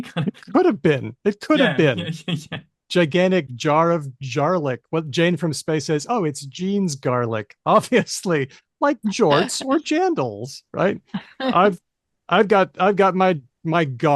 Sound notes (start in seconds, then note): 7.7 laughter